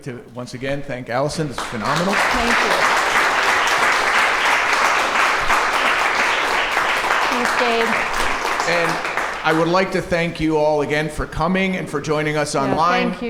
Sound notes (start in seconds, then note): 1.5 applause